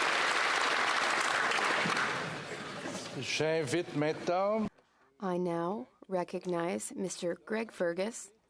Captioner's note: applause